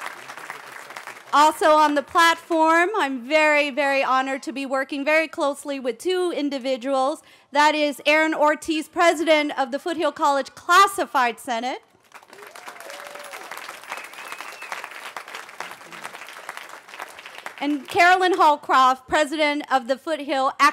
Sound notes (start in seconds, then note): 0.0 cheering; 14.7 cheering